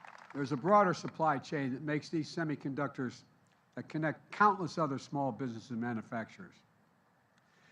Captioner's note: applause